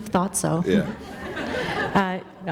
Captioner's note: laughter